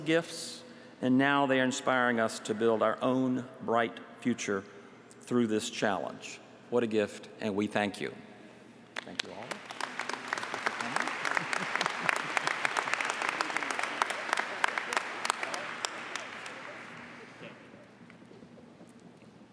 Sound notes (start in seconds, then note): 16.9 applause